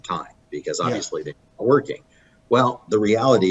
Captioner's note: audio cutting out